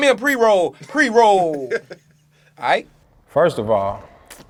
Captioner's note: laughs